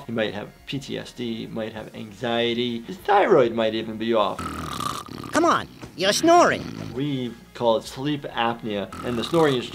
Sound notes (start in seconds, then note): 4.2 Daffy Duck snoring